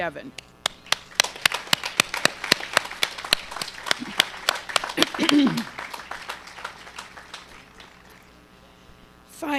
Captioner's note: applause